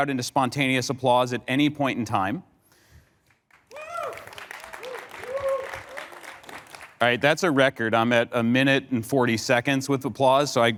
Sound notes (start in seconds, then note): 3.2 applause